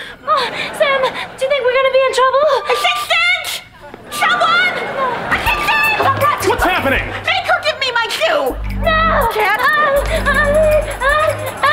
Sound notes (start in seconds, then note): 9.9 stammering